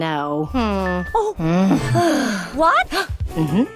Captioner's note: sigh